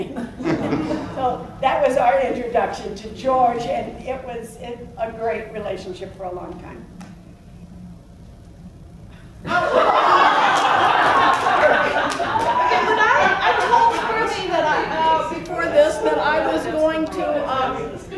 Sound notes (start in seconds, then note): 9.9 laughs